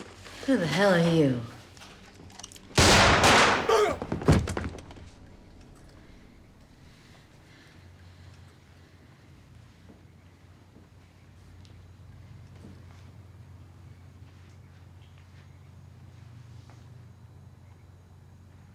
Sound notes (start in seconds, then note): 2.7 gunshots; 3.4 groans